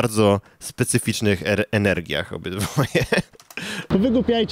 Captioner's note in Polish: śmiech